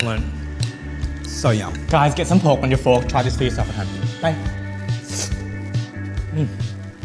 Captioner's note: slurps